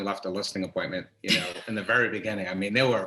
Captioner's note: chuckles